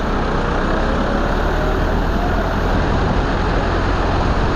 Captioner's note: sound of tractor running